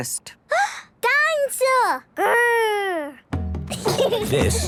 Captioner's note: gasps; children giggling